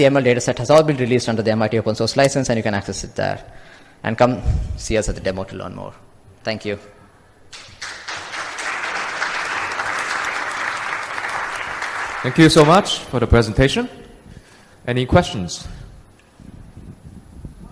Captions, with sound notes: set has all been released under the MIT Open Source License and you can access it there. And come see us at the demo to learn more. Thank you. [APPLAUSE] Thank you so much for the presentation. Any questions?